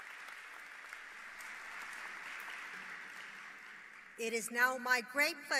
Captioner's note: applause